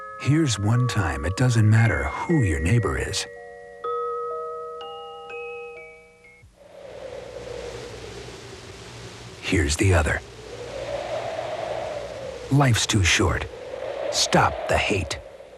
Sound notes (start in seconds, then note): 0.0 gentle soft music; 6.7 wind howling